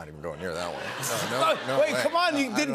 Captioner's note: laughter